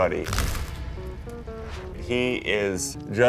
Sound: camera click shutters

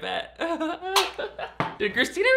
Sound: laughs

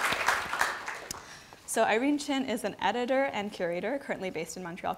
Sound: applause

